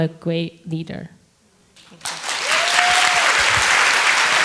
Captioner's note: applause